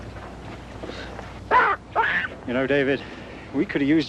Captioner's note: baboon screeching